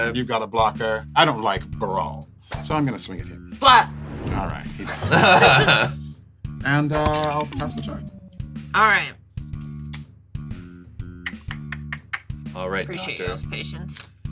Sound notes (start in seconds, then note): 4.8 laughs; 11.2 clicks tongue